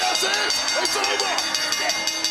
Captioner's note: bell rings